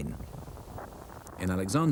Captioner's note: radio buzzes